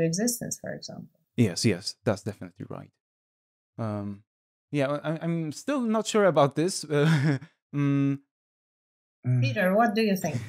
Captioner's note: laughs